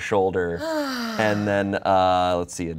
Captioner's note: sighs